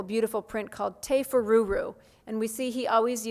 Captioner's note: speaks foreign language